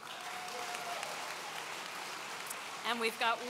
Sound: audience cheering

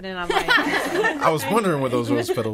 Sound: all laughing

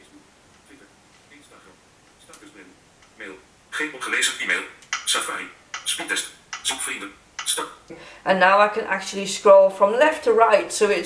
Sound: VoiceOver reads phone screen elements

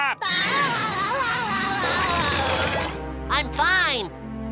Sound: grunting

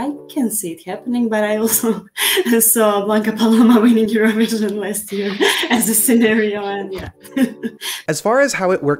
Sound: laughs

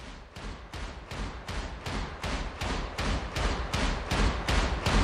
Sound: approaching rhythmic stomping

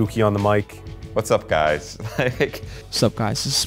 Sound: laughs

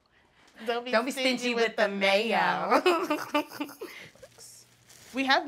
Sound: both chuckle

